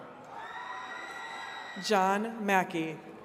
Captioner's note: attendees cheering and clapping